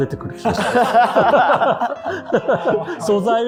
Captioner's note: laughing